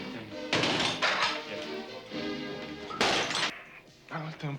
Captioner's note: plate smash